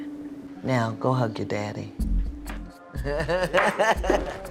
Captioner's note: laughs